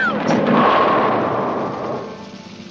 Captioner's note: bowling pins crash